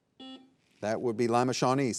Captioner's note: buzzer buzzing